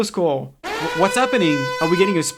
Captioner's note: loud ass alarm